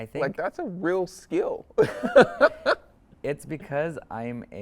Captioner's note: chuckles